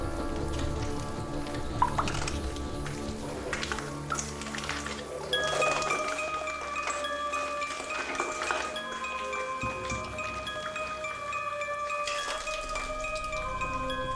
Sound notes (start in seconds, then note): 6.1 suspenseful music; 6.1 water dripping; 9.2 eerie music